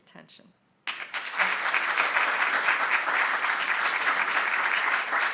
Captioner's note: audience applauding